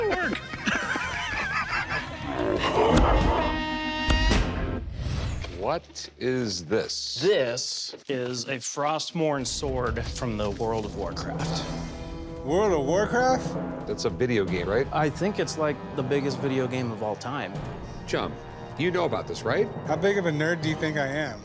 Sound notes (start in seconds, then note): 0.0 laughter; 1.6 slow motion gunshot